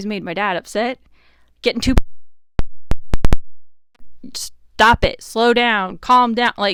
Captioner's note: mic cuts out